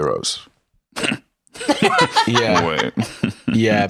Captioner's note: chuckles